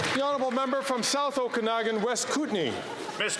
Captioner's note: some Applause